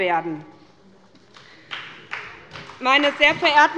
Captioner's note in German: Beifall bei der SPD